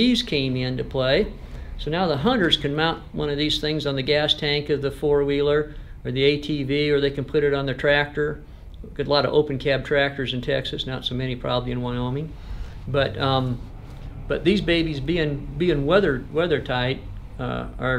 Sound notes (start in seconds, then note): none